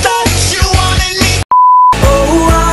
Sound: beep

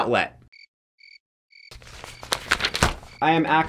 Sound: crickets chirping

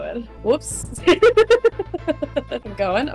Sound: laughs in lost

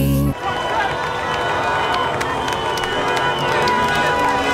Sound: cheering; honking

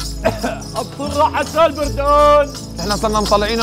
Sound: continues Shouting

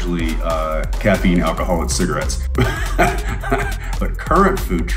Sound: laughs

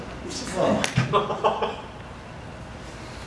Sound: audience laughter

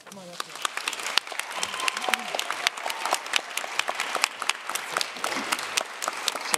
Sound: applause

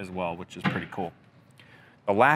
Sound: door loudly shutting

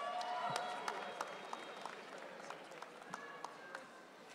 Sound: audience cheering

